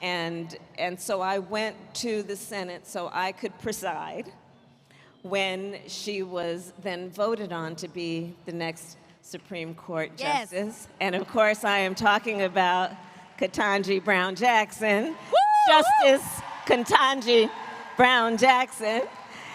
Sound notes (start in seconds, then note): 14.1 applause